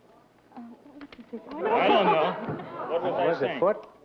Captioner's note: mumbling